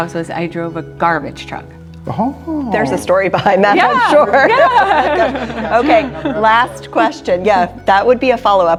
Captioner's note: laughing